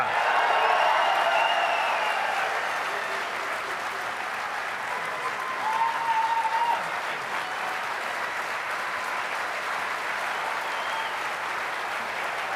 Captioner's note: applause